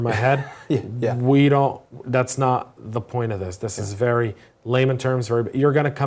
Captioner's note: laugh